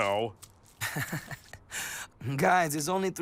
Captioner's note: chuckles